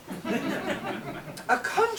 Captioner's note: audience laughs